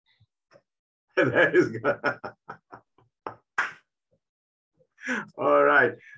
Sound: laughing

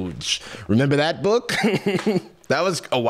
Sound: chuckles

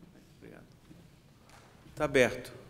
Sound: speaking portuguese

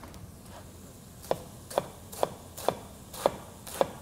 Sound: chopping sounds

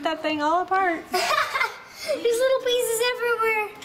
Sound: laughs

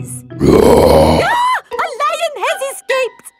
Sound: roars; screams

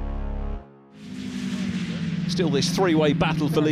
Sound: engines roaring

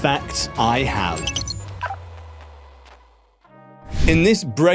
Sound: logo crackling

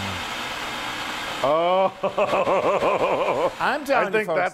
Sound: laugh

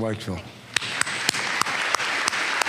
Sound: applause

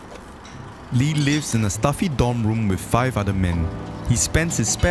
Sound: in English

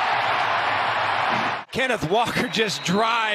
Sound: applause

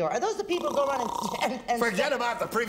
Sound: snoring

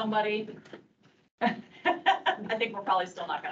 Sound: laughing

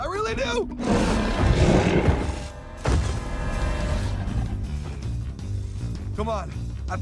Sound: roaring

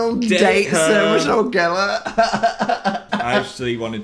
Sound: laughs sarcastically

